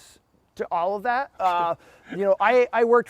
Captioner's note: laughs